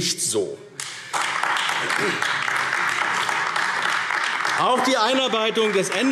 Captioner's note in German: Beifall AfD